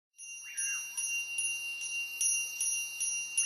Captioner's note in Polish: dzwonek dzwoni